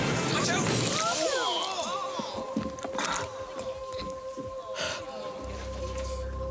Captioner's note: people gasping